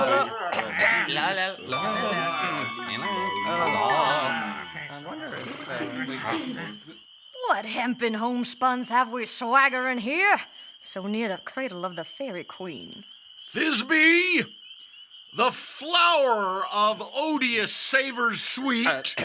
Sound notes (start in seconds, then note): 0.0 sounds of talking, clearing throats; 1.6 tinkling bells